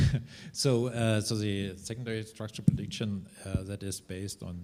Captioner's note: chuckles